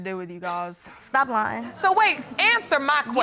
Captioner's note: audience laughing